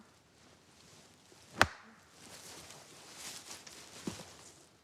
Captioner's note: stick smacking